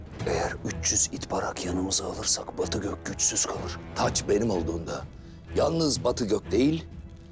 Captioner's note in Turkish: none